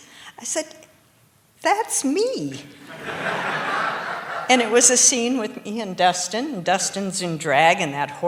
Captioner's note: laughter